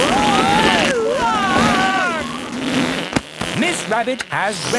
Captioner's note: screaming; crowd gasps